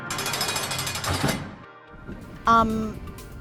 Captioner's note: prison cell clanging shut